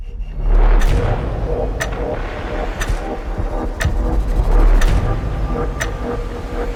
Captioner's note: intense music; clock ticking